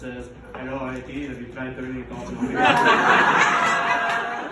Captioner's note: in an Indian accent